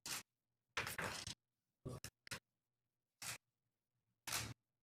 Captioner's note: camera shutter clicking